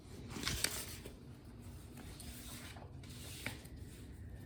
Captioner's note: papers shuffling